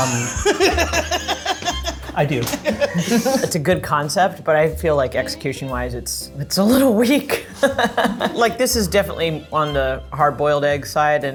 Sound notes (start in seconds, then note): 0.0 laughing; 7.4 laughs